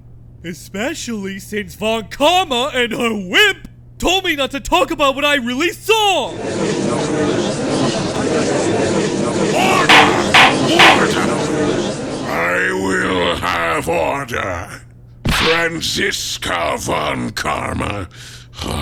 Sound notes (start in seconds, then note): 9.6 gavel slams!